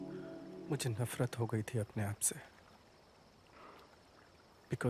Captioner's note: foreign language